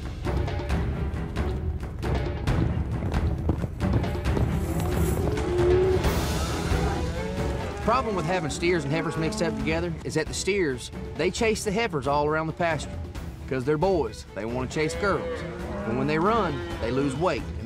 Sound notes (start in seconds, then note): 1.2 hoof beats; 4.6 mooing